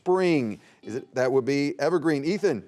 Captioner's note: buzzer beeping